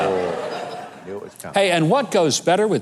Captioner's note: audience laughing